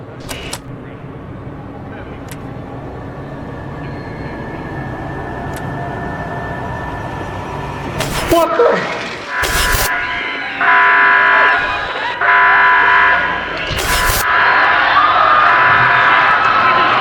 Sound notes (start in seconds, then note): 7.8 glitching; 8.7 glass breaking; 9.3 alarm blaring; 10.0 screaming; 13.9 glitching; 14.4 alarm blaring; 14.4 crowd panicking